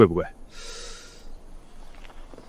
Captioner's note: gasps